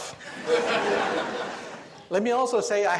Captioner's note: audience laughs